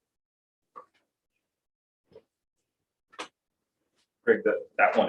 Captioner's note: indistinct conversation